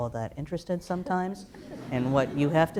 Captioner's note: laughter